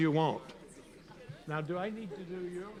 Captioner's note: students chatter